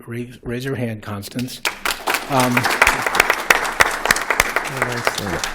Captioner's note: applause